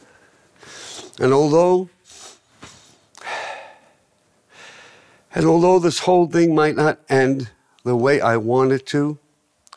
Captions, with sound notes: And although, [taking a breath] and although this whole thing might not end the way I want it to,